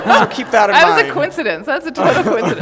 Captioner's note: laughter